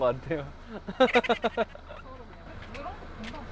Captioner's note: kekekekeke